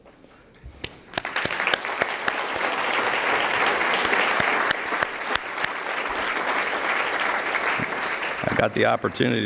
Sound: applause

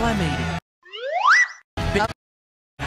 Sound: slide whistle noise

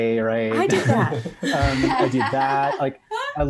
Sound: all laugh

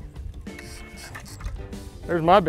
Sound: reel croaking

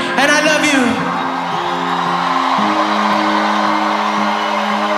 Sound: audience applauding

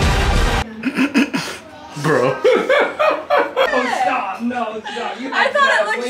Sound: clears his throat

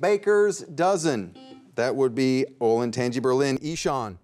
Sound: buzzer beeps once

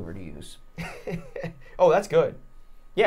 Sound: chuckling

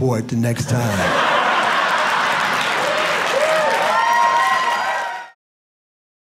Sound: audience cheering

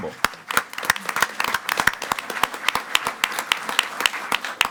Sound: audience clapping

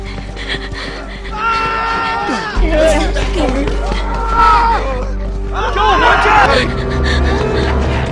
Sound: eerie music; screaming

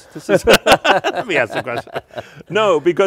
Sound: laughing; both laugh

